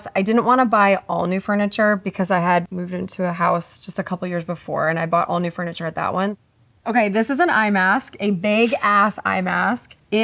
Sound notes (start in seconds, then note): none